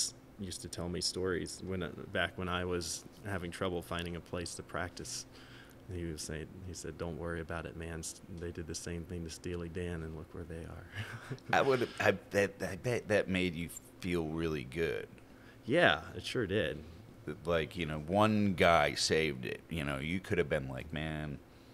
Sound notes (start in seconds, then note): 10.9 chuckling